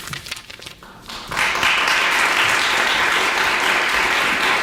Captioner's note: audience applauds